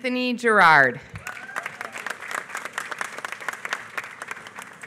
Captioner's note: applause